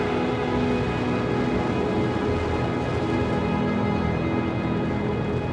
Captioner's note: engines roaring